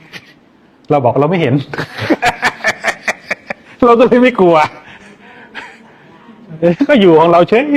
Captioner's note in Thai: เสียงหัวเราะ